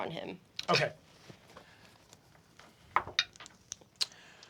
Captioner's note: rolls dice